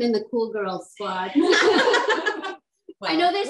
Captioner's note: laughs